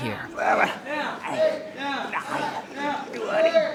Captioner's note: student grunts while counting